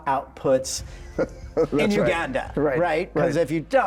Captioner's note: laughs